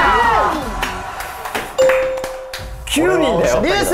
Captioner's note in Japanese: 拍手